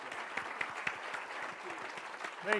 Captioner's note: applause